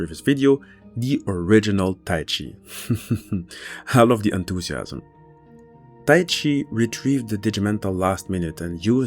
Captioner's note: laughs